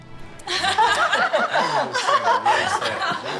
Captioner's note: laughter